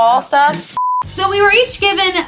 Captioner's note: beep